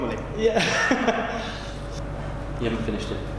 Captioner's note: laughing